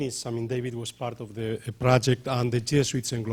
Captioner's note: speaking off microphone